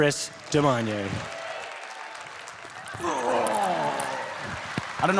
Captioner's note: congregation applauds